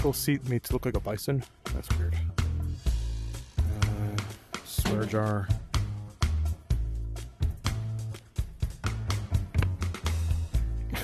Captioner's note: laughs